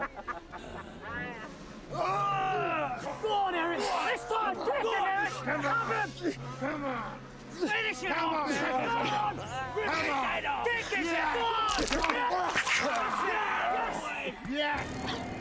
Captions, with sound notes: (man grunts) - Come on, Eric. This time, quickly Eric. - Come on, come on. - Finish him. (men yell) Take his head. (loud crunching)